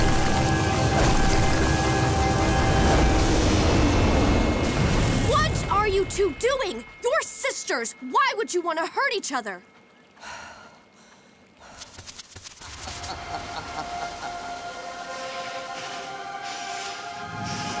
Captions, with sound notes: What are you two doing? You're sisters. Why would you want to hurt each other? [laughing]